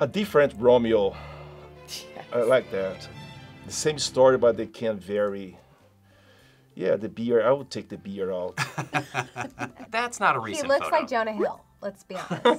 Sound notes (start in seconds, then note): 8.6 laughs